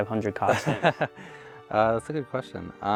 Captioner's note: laughs